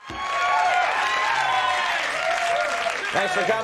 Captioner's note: audience cheering